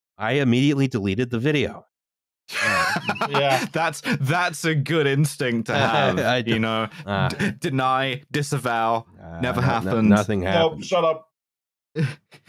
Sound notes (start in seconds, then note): 2.5 laughter; 5.5 laughs